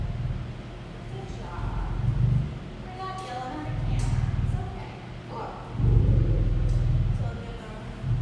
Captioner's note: low lion growl